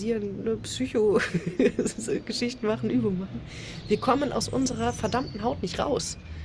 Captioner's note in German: gelächter